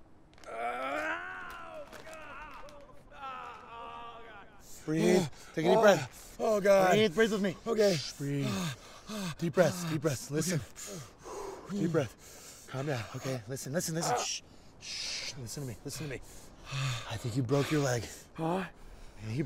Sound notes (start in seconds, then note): 10.6 exhales